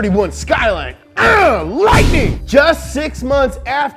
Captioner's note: lightning bolt crash